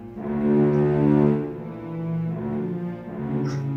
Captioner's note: cries like a baby